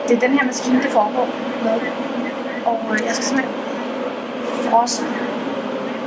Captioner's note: speaking in Danish